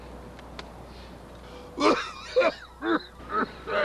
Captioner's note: hacking cough